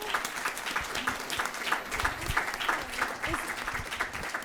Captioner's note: crowd applauds